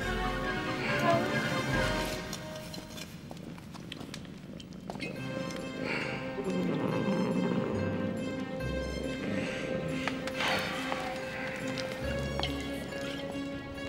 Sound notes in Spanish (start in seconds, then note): 6.4 ronroneo de gato